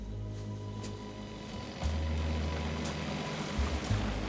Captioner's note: boat motor